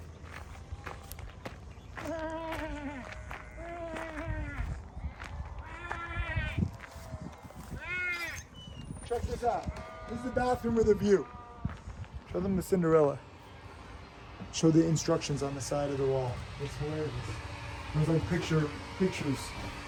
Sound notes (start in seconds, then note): 3.8 baaing; 3.8 sheep baaing